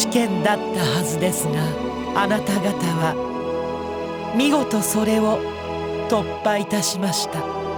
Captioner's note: none